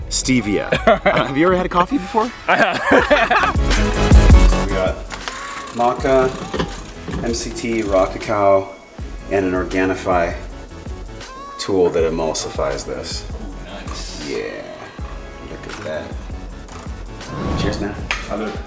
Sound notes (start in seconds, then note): 1.5 laughs; 3.1 laughs; 18.5 clinks